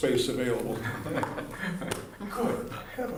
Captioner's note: laughter